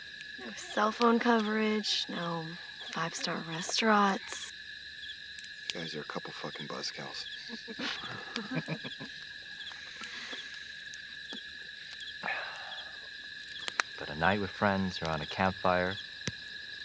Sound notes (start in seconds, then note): 7.3 group Laughing; 11.9 crickets Chirping Continues